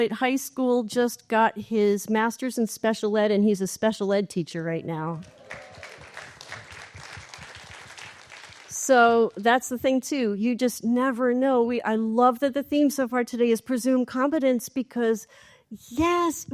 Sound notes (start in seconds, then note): 5.2 applause